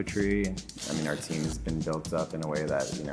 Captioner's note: paper ripping